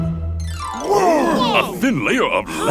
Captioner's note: Blok grunting; gasping